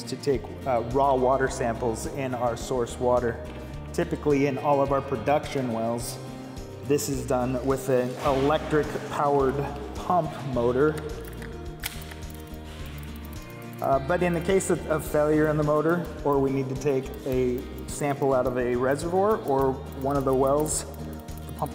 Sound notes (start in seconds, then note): 11.1 fishing reel clicking